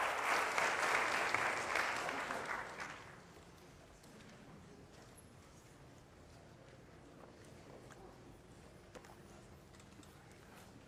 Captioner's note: applause